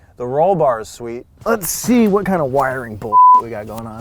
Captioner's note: beeping